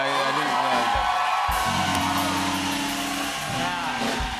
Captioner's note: cheers and applause